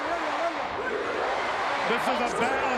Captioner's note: crowd chants "USA"